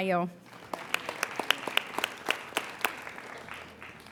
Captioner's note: applauding